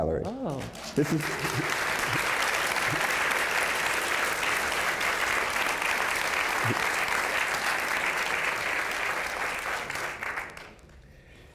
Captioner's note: applause